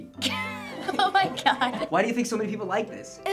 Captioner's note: laugh